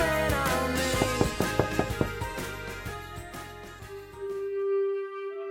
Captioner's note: knuckles tapping; gentle music